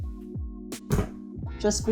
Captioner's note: bra thuds